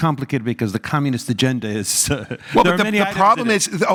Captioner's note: laugh